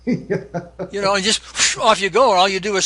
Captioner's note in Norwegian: blåser luft